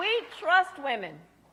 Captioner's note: applause